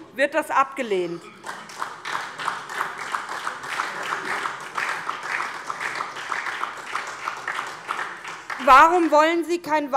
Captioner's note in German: Beifall SPD und vereinzelt DIE LINKE